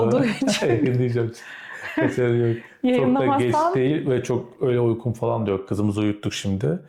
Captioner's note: laughter